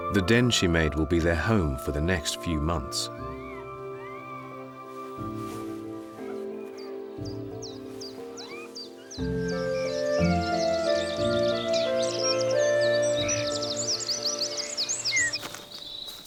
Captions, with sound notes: The den she made will be their home for the next few months. [birds chirping]